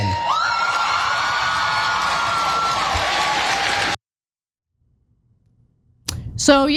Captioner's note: applause